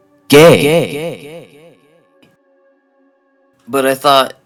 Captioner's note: echoing